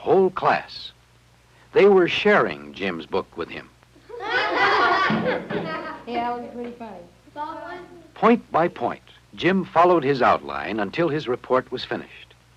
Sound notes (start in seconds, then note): 4.0 laughing